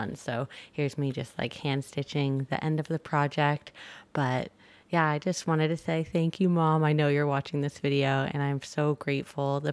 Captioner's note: none